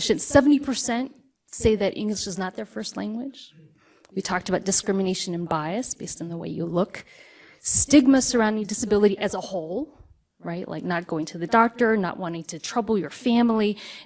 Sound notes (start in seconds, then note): none